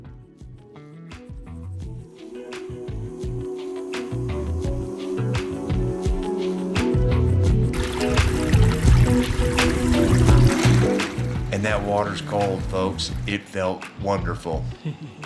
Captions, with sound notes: [Soothing music] [Bubbling water] And that water's cold folks. It felt wonderful!